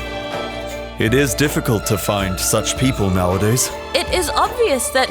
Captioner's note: male Voice